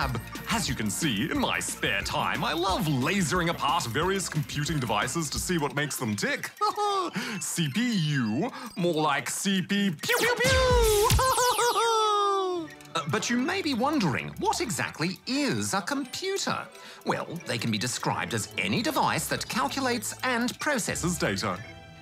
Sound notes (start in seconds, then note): 6.4 chuckles; 10.8 laughs